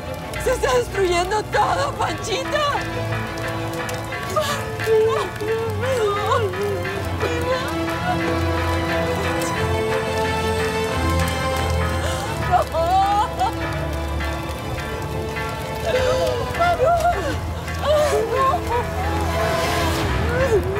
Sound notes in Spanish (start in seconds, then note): 12.2 Sollozos